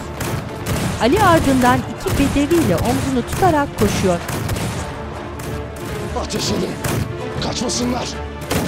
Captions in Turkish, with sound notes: (Silah sesleri) Ateş edin. Kaçmasınlar.